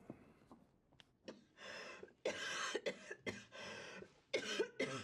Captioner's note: coughing persistently